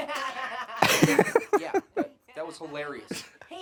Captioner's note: Annoying Orange laughs; laughs